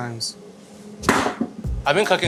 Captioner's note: hammer thuds